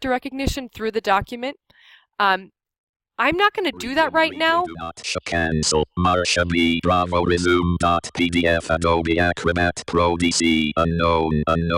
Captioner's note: NVDA voice speaking